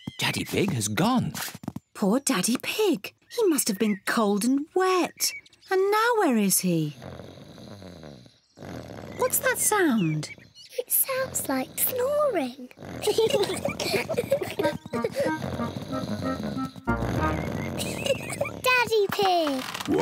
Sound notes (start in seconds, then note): 6.8 snoring; 13.0 both laugh; 16.0 snoring; 18.2 laughs